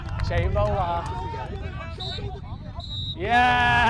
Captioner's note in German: Schlusspfiff